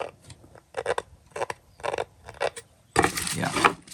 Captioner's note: wood scrapes